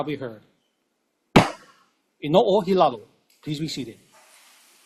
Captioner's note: gavel bangs once